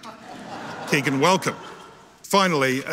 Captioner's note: audience laughing